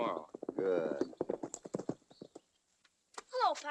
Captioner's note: horses galloping